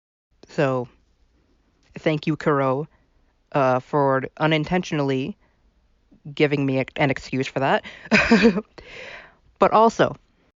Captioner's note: laugh